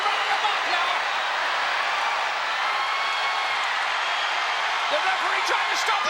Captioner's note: crowd cheering